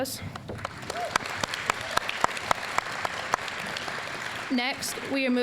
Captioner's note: applause